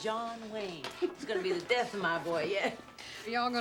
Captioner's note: both chuckle